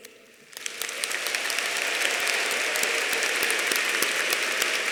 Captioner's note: audience applauding